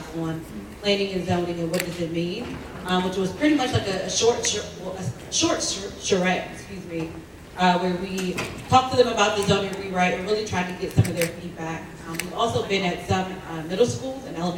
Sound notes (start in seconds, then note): none